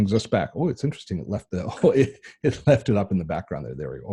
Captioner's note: laughing